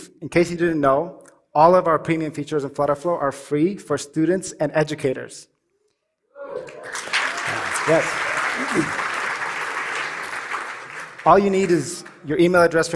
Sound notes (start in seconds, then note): 6.6 applause